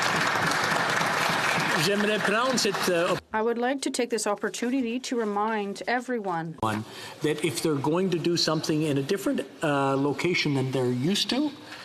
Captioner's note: some Applause